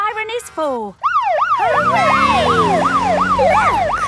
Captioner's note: siren